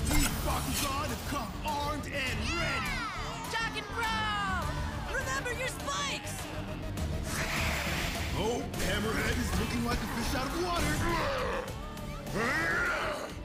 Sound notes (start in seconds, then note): 2.3 crowd cheering; 7.2 hissing; 12.3 roaring